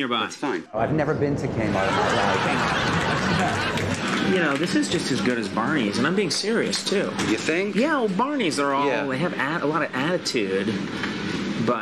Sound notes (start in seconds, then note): 1.6 audience laughs